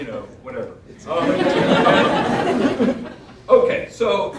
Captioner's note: laughter